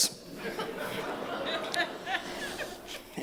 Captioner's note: laughter